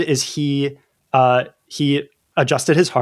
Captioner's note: uh